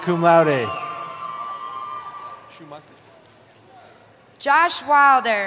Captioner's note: cheering